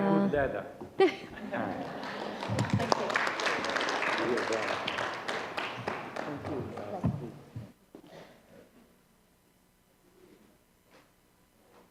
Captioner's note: laughter